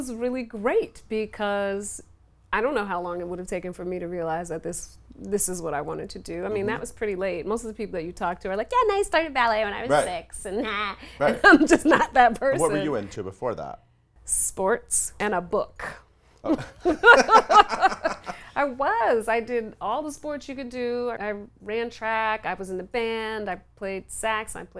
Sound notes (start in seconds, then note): 16.4 laughs